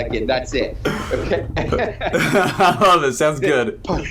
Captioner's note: laughing together